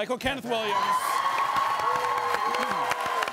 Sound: audience cheering

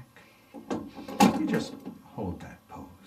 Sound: rattling sound

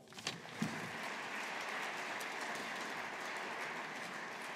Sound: audience applauding

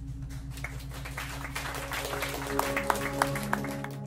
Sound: congregation clapping; soft music

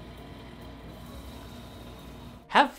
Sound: liquid nitrogen sizzling

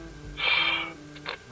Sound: sigh

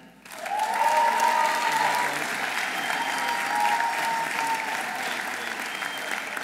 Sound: audience applauding; audience cheering

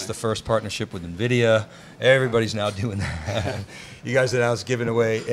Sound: laughs

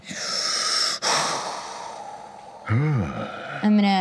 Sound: breathes deeply

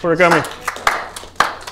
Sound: applause

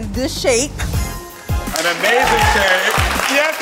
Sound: audience cheers

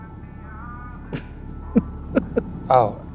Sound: laughs

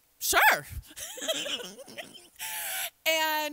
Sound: laughs

